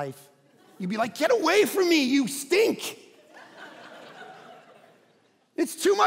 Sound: congregation laughing

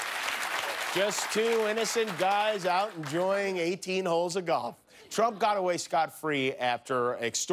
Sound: applause

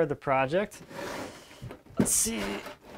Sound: tin rattles

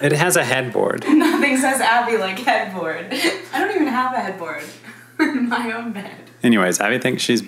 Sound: laughing

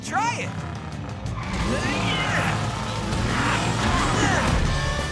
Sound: grunting

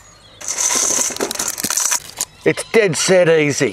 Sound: tinkling

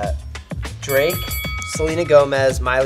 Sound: victory bell

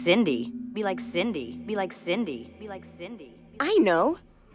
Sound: mother's voice echoing

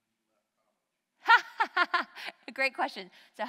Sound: laughs

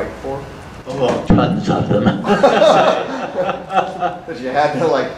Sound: audience laughter

